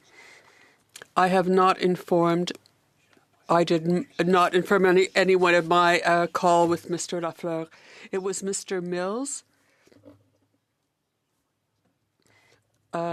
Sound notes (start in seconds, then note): 2.9 speaking French